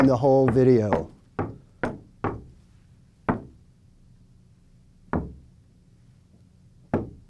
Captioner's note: knocking on wood